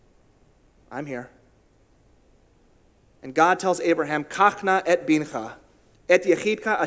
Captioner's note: in Hebrew